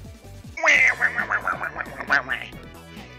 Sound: Waluigi Engineer Noises

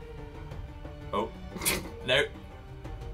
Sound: laughs

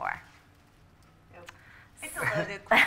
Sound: laughter

